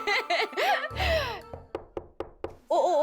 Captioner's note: knock knock knock